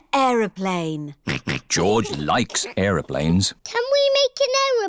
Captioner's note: snorts